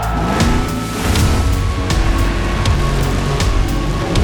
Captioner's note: engines revving